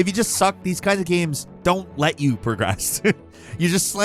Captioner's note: laughs